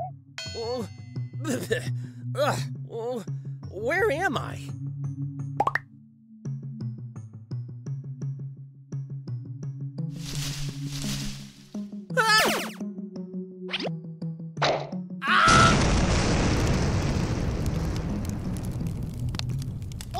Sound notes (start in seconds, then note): 5.5 camera zooms out. rustling is heard; 15.2 screams and jumps away